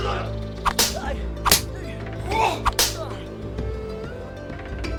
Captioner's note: master yelling; stick smacking